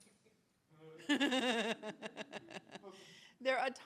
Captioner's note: attendees and interpreter laughing